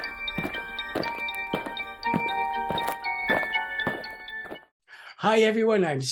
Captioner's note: eerie music; aliens marching